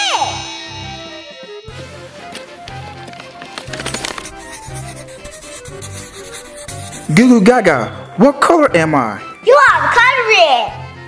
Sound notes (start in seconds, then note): 3.8 coloring scratching